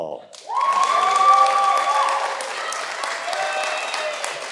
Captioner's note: audience applauding